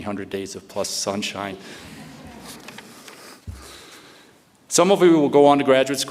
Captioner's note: audience chuckles